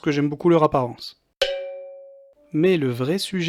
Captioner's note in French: Coup de cloche